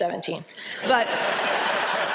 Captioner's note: laughter